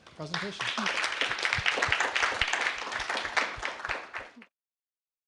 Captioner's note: applause